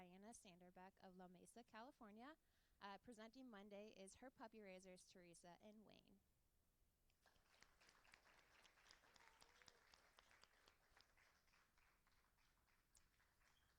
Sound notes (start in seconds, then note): 10.0 applauding